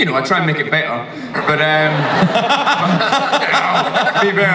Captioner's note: audience laughs; Chris laughs